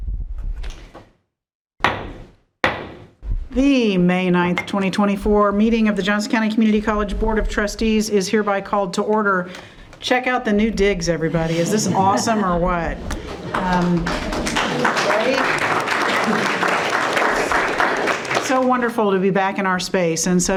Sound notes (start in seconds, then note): 2.6 gavel knocking; 13.2 members applauding